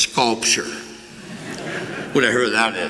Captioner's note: laughter